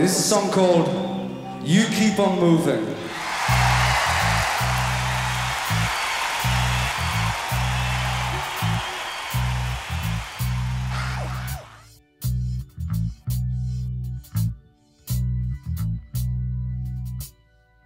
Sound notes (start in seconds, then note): 3.3 audience cheering; 5.8 mellow rock music